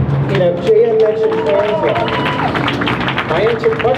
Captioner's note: crowd cheers